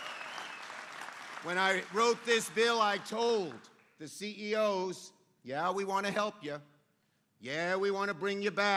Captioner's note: applause